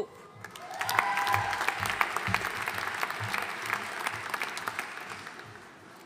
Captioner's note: audience cheering and applauding